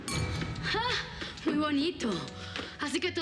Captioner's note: tintineo de copas